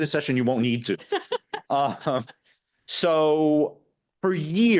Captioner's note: laughing